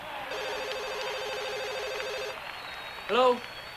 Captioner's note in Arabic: يرن الهاتف